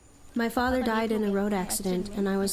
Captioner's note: through translator